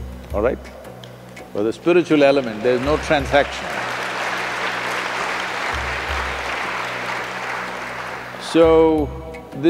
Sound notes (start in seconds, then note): 7.1 applause